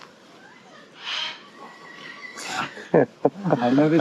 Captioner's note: parrot singing